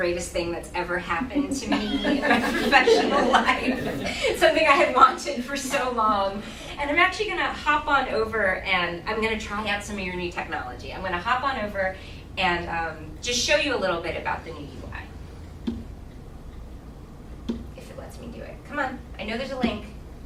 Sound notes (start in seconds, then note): 1.3 laughing